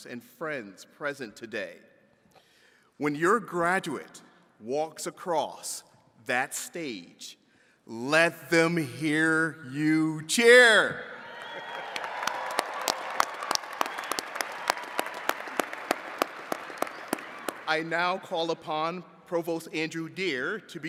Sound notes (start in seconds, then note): 11.1 attendees cheering and clapping